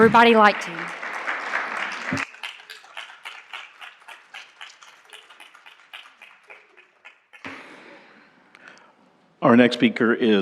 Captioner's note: applause